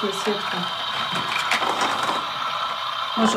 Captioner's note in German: Rauschen